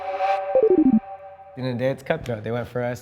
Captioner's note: beeping